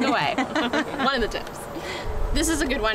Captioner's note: laughter